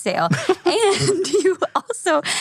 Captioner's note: laughing